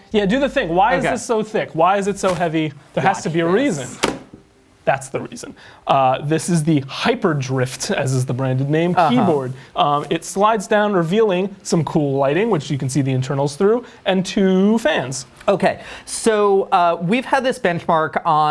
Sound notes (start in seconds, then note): 3.5 thumping